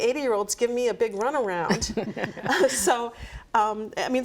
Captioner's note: laughs